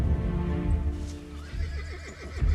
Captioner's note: horse neighing